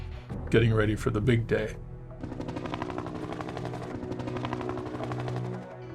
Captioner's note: helicopter whirring